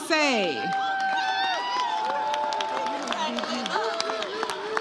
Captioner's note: audience cheers